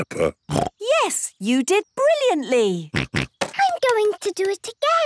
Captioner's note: snorts